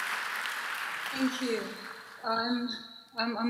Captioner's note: applause